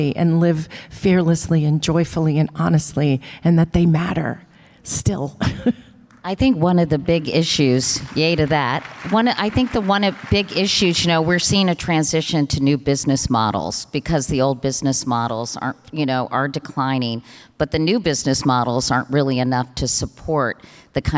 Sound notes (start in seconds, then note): 5.4 chuckles; 7.1 audience applause